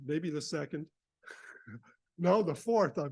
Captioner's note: chuckling